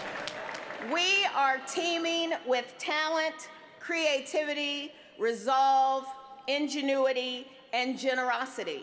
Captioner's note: applause